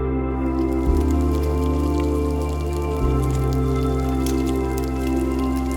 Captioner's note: fry pan sizzle begins